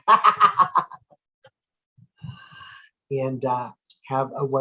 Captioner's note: laughs